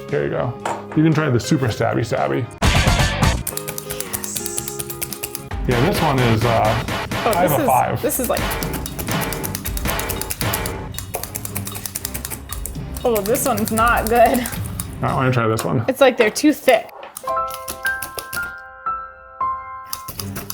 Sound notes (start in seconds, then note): 4.1 whispering; 8.7 intense music; 17.2 bright piano music; 20.3 intense music